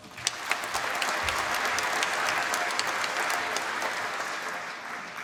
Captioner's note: applause